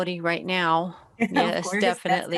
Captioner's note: chuckles